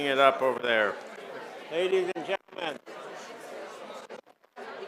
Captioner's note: scattered applause